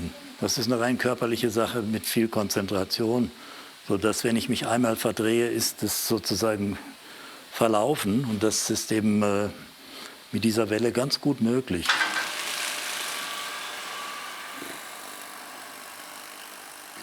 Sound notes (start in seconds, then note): 11.8 clattering, then buzzing